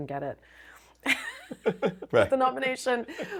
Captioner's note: both laugh